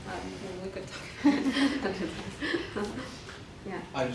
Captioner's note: women laugh